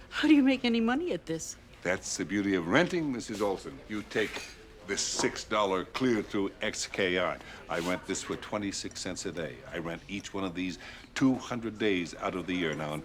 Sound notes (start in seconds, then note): none